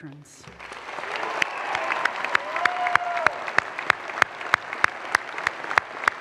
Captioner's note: audience applause and cheers